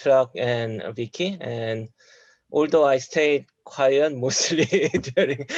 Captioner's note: laughs